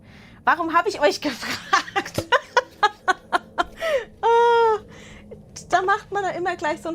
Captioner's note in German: Gelächter